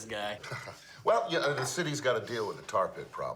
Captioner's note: laughs